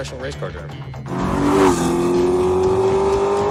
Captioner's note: engine rumbling